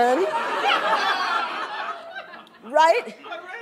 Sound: laughter

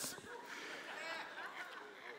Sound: laughter

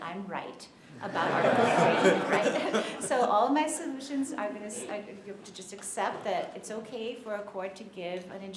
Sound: laughter

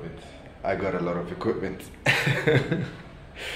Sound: laughs

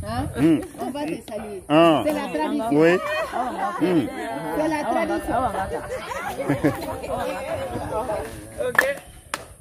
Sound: speaking in Foreign language; all clapping and laughing

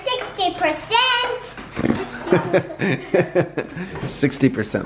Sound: laughs

